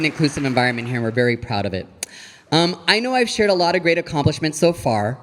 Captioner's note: audience applauding